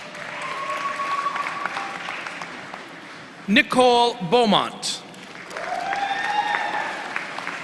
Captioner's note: applause